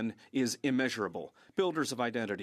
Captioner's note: speaking French